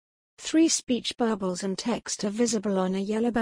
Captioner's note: voiceover